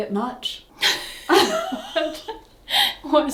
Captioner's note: laughs